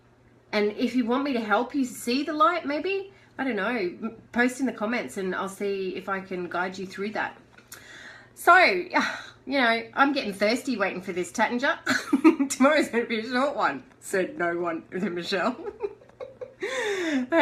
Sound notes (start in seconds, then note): 8.9 sighs; 12.2 chuckles; 15.6 laughter